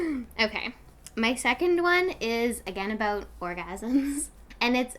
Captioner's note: laughs